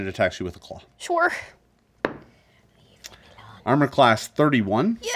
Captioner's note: dice thud